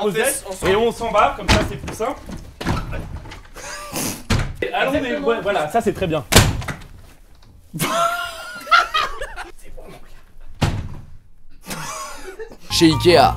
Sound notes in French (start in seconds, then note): 6.3 Claquement de porte; 10.5 Claquement de porte